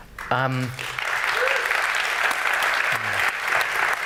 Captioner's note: applause